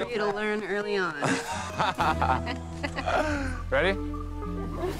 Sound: both laughing

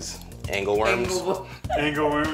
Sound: laughs

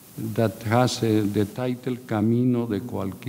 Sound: speaking in a foreign language

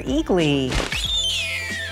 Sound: eagly screeching

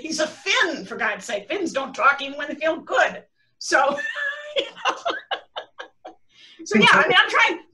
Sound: laughter

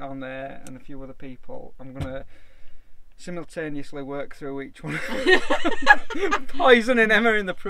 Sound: laughing

